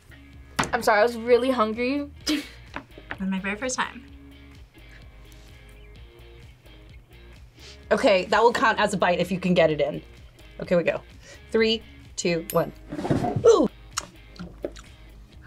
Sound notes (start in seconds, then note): 2.3 laughs